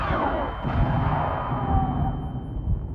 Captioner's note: screaming